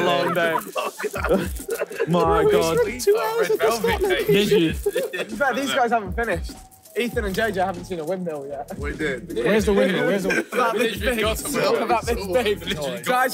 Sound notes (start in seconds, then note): 0.0 laughing